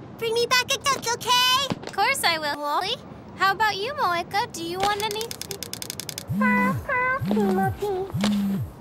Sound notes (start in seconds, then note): 6.2 ringtone